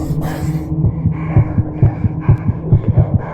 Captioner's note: hyperventilating